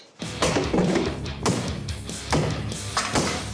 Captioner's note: wood chopping